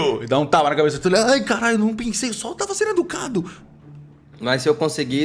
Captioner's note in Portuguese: none